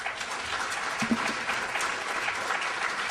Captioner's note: applause